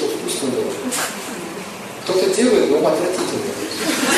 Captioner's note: смех